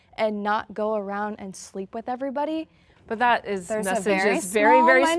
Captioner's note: none